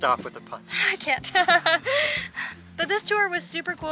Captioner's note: laughter